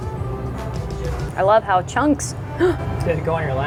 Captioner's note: gasps